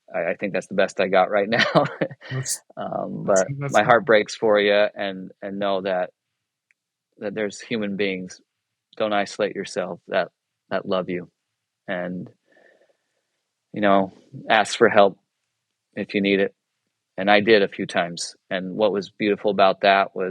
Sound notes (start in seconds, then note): 1.4 chuckles